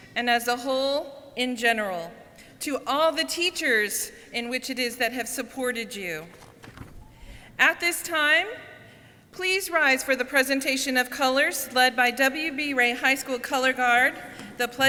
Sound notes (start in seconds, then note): none